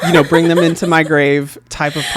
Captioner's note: laughs